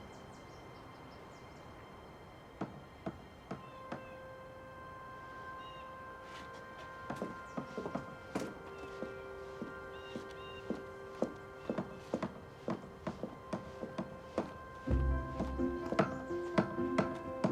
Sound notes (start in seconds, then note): 3.2 banging; 7.1 banging; 11.7 banging